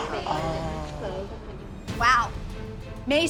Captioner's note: gasps